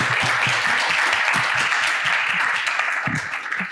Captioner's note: applause